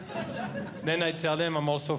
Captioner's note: audience Laughing